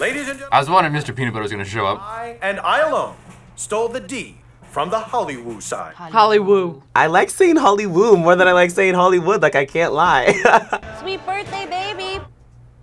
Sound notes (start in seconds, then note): 10.3 laughs